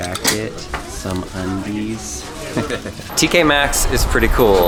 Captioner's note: laughs